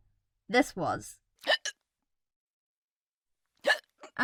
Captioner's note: hiccup noises